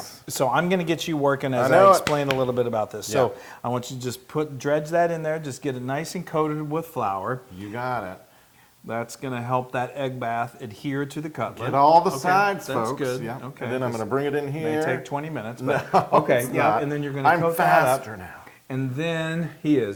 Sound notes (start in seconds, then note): 15.6 laugh